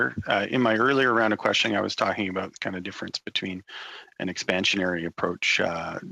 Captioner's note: speaking French